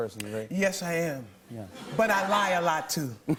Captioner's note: laughter